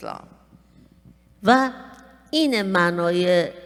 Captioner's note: speaking persian